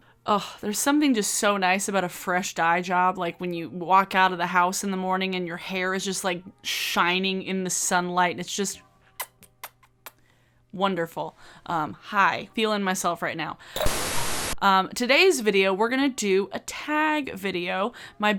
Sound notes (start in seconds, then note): 9.1 kisses; 13.8 static buzzes